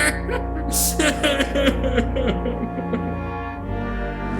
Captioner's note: laughing hysterically; sobbing